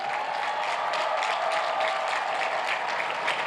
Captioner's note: cheers and applause